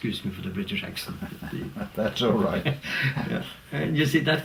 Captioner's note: laugh